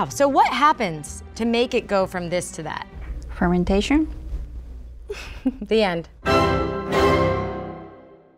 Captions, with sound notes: So, what happens to make it go from this to that? - Fermentation. (laughs) - The end.